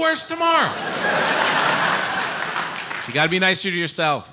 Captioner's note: audience laughs and applauds